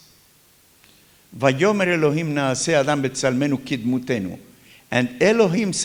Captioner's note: talks in Hebrew